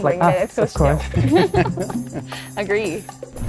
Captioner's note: giggle